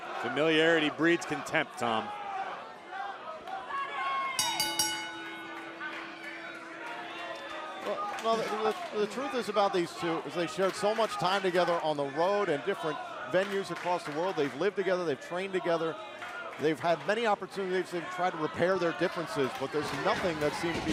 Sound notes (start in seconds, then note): 4.3 bell ringing